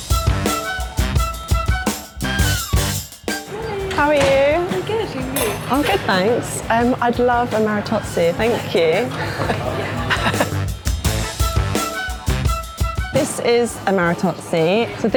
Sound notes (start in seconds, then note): 0.2 groovy music; 8.4 laughing; 10.9 groovy music